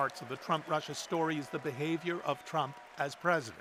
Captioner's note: cheers and Applause